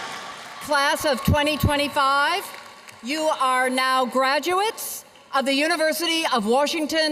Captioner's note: cheers and applause